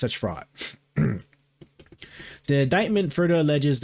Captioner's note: clears throat